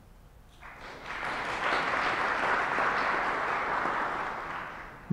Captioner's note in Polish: oklaski